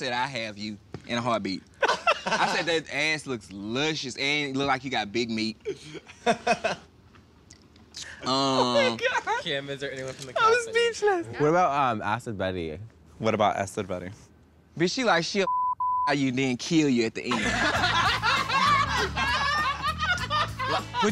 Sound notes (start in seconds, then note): 5.6 laughing; 15.4 beep; 17.2 all laughing